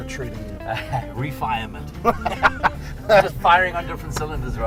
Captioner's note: laughing; laughs